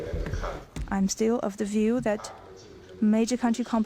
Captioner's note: through translator